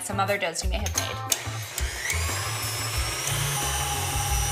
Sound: mixer whirring

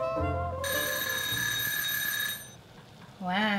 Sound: timer rings

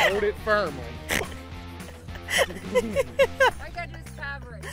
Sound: laughing

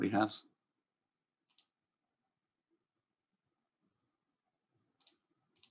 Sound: mouse clicking

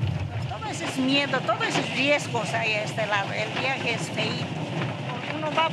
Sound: speaking in foreign language

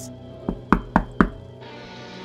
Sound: knocking

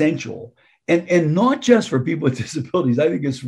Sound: chuckling

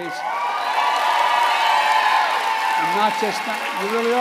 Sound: applause

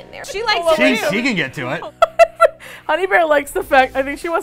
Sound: laughs

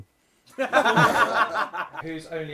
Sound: people laughing

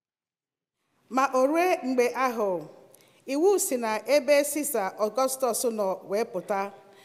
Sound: speaking in Igbo

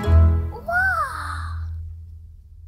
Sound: gasps

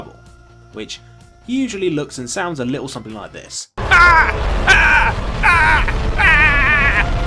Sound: aaarrrrgggghhhhhh

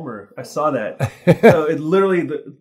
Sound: laughs

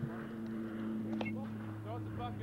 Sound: bat cracking

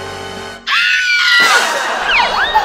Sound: scream

